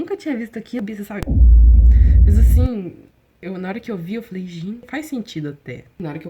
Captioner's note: explosion noise